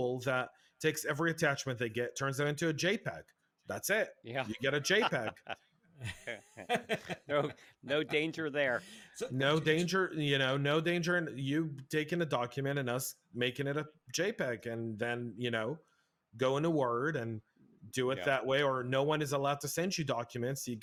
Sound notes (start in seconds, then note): 4.4 laughs